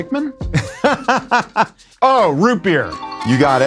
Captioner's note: laughs